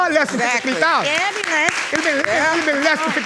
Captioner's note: audience clapping